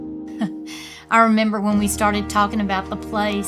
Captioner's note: chuckles